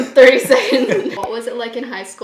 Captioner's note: both laughing